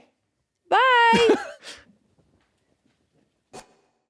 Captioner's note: laughs